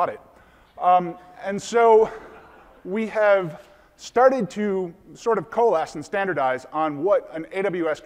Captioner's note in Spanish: Risas del público